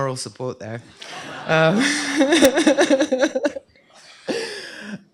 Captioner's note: laughter